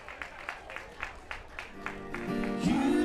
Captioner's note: applause